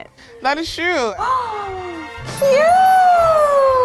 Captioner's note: sighs